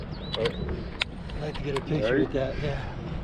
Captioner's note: chuckling